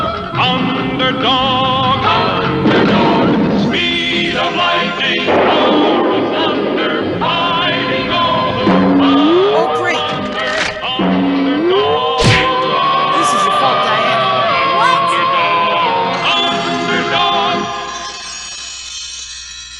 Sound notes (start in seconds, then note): 2.6 explosion; 5.2 lighting Strikes; 12.2 crash!